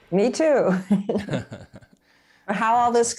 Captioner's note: laughing